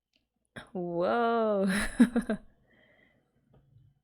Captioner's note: laughs